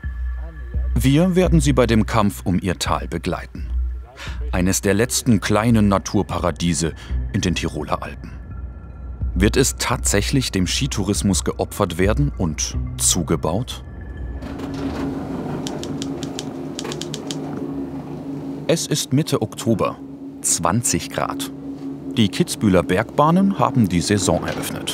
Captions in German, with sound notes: Wir werden sie bei dem Kampf um ihr Tal begleiten. Eines der letzten kleinen Naturparadiese in den Tiroler Alpen. Wird es tatsächlich dem Skitourismus geopfert werden und zugebaut? (Schreibmaschinengeräusche) Es ist Mitte Oktober, 20 Grad. Die Kitzbüheler Bergbahnen haben die Saison eröffnet.